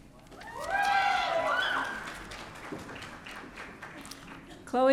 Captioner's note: audience cheering